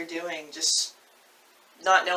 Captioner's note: confused co-author noises